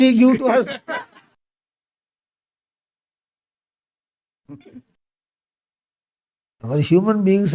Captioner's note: laughs